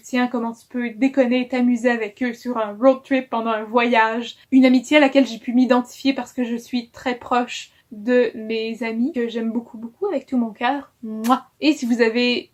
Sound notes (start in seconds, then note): 11.2 kiss